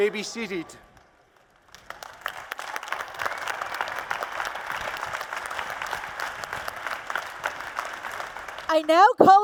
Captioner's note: applause and Cheers